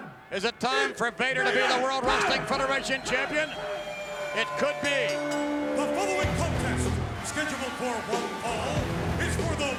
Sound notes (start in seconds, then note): 4.4 bell dings; 5.9 intense music